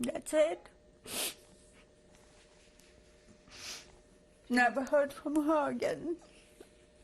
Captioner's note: pauses for 3 seconds